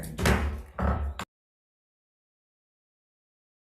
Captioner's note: gavel bangs